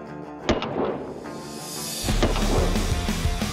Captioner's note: rock music; gun fires; heavy metal music